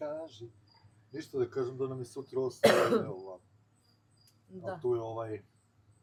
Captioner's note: cough